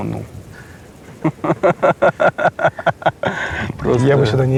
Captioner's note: laughing